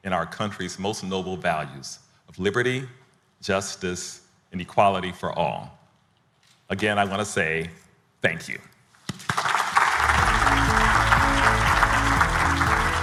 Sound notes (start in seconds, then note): 9.2 audience applauding; 9.9 upbeat music